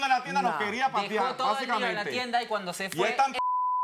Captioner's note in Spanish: Bip